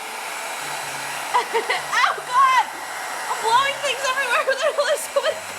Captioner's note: laughs